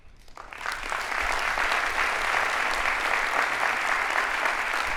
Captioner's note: audience applauding